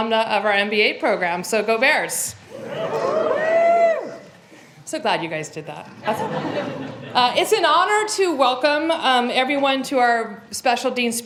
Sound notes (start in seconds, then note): 6.0 laughter